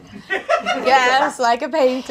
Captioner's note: audience laughs